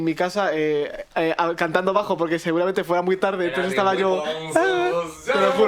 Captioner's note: drunk noises